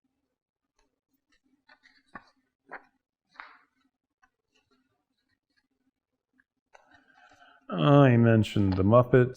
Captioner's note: turning pages